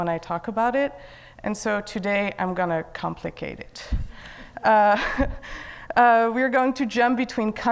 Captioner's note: laughs